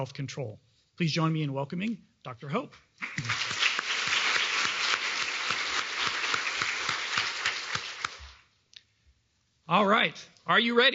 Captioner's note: applause